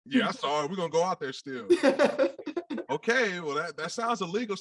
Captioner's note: all laugh